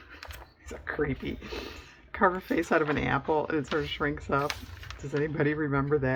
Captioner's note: laughs